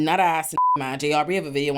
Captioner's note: beep